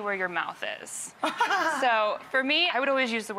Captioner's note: laughs